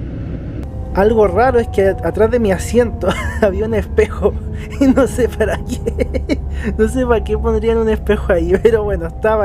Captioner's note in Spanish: risas